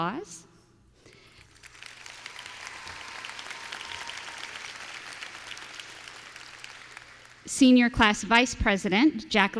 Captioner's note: applause